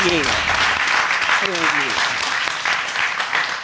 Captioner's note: audience applauding